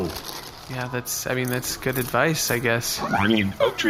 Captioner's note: chomps more popcorn